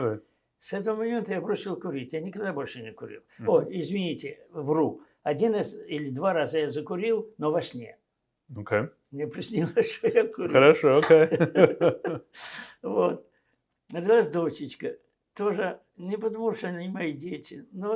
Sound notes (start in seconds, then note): 9.6 laughing